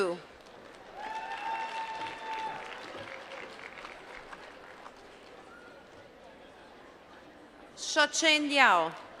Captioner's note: applause